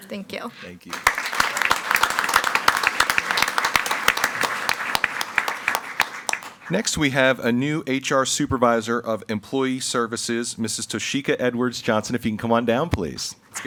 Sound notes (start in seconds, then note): 0.8 everyone applauding